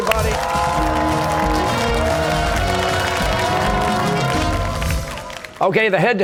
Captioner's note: cheers and applause